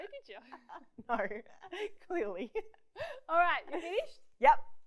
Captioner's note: laughs